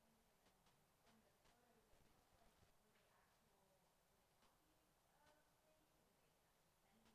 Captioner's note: speaks faintly